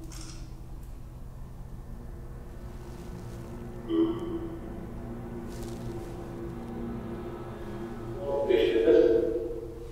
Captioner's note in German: APP talking in the background